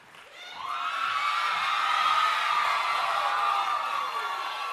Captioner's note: audience cheering